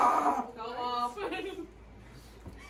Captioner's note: giggling